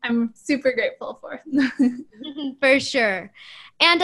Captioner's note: laughter